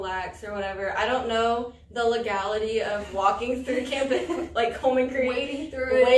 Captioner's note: all laugh